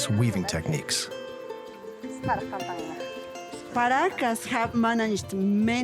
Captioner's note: all talking softly